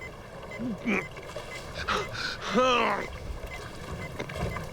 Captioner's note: groaning